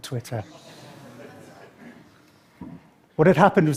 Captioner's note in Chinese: 笑聲